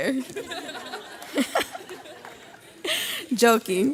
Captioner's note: graduates laugh